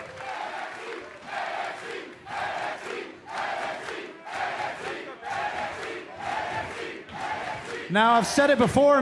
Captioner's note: cheers and applause; fans chanting